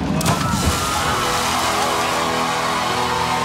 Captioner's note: applause